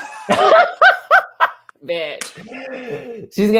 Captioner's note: laugh